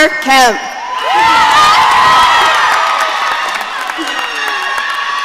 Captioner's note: audience cheering